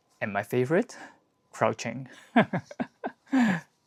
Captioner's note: chuckles